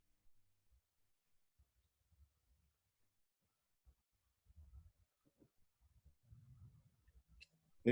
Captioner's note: silence